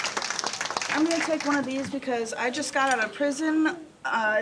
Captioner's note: cheers and applause